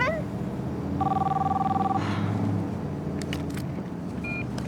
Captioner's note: phone ringing